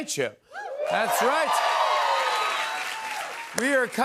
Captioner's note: cheers and applause